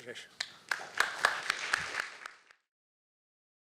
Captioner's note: applause